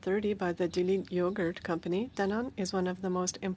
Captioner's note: speaking French